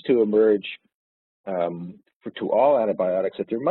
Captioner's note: audio distorts